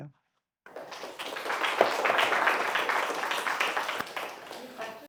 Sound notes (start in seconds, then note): 0.6 audience applauding